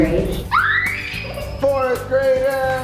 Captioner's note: screams